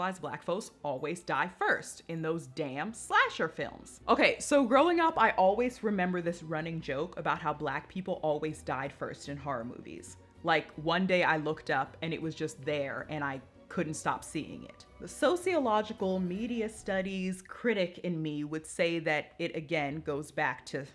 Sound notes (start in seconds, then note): none